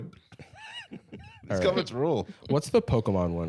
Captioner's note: laughing